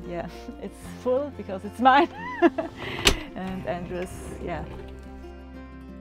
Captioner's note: laughter